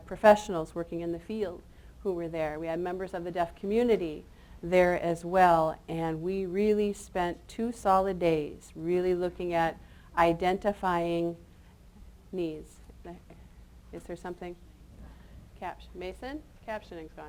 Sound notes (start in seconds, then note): none